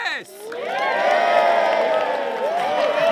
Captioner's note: cheering